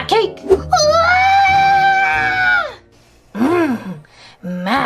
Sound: Gekko screams

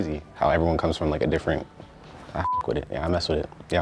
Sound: beep

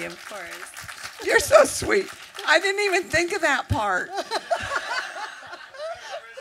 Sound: applause; laughter

